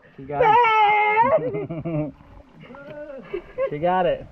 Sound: chuckling

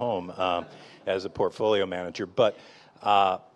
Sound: audience members laughing

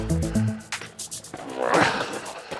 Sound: exerting huge effort

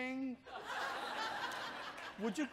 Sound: audience chuckles

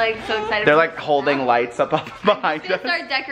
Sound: laughs

